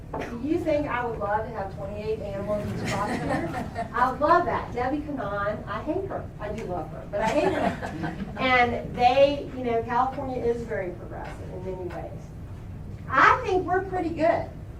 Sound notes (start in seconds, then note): 2.5 laughter; 7.2 laughter